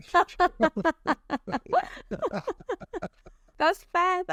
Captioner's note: interviewer laughs